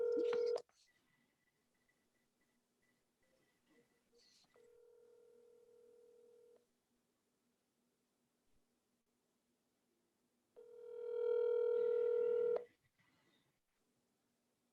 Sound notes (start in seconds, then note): 8.8 phone ringing